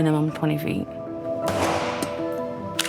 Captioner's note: fires